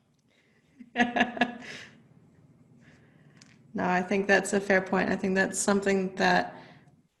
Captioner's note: laughs